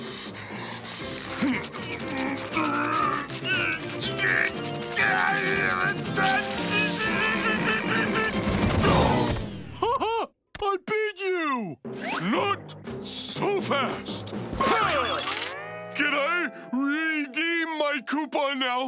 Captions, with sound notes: [grunting] [grunting] Ha, ha! I beat you. Not so fast! Ha! Can I redeem my coupon now?